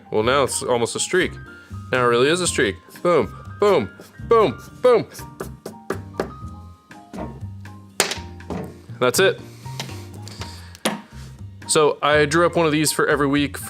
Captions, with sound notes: Well, now it's almost a streak, now it really is a streak, boom, boom, boom, boom! (marker knocking) That's it, so I drew up one of these for every week